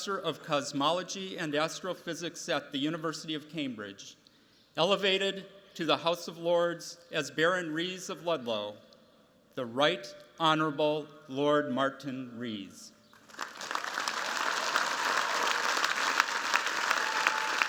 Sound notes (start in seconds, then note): 13.2 cheers, applause